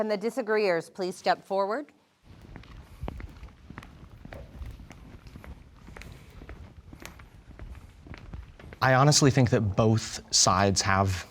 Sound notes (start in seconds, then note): 2.3 footsteps thumping